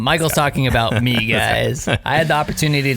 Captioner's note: laughing